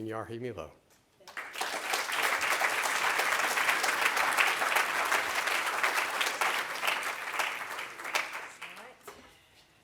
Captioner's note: clapping